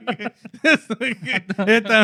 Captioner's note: laughing